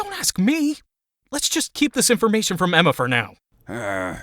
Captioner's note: whispering